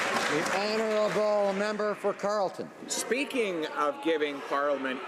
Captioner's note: some Applause